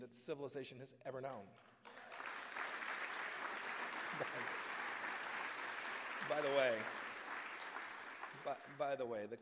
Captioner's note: applause